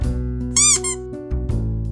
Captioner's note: squeak